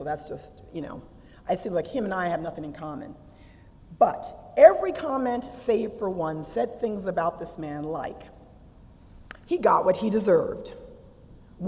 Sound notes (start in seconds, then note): none